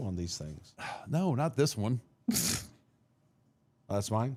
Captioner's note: laughs